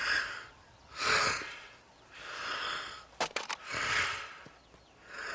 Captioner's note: breathing heavily